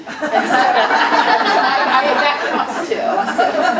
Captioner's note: audience laughing